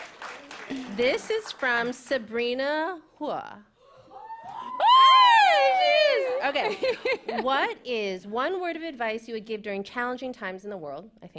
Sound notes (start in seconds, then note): 4.0 cheering